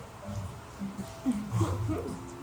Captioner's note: laughs